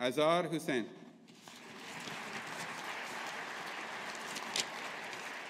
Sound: audience applauding

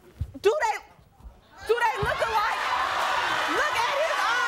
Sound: audience cheers

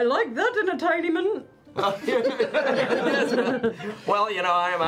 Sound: laughter

